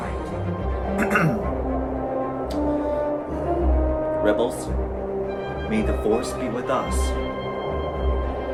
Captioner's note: clear thorat